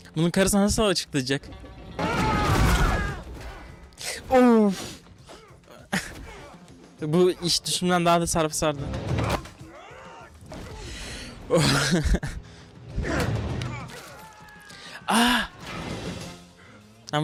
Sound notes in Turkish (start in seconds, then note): 4.5 homurdanır